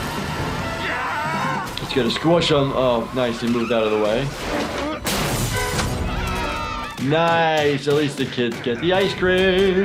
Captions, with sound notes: (intense music) He's gonna squish him. Oh, nice, he moved out of the way. (kids cheering) Nice, at least the kids get the ice cream.